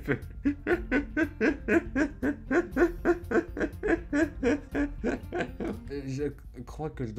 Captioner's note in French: Rires